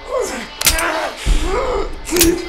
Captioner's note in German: waffe klickt